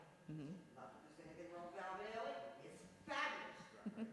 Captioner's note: speaks faintly